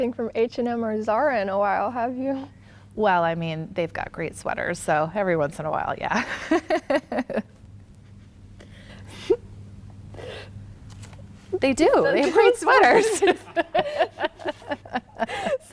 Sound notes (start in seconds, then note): 6.4 laughing; 9.3 softly laughing; 12.1 laughing